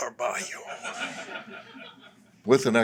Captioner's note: laughter